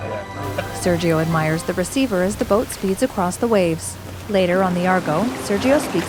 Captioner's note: water spattering; waves crashing